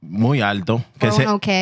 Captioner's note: speaking Spanish